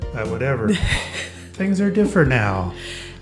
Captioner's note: laughs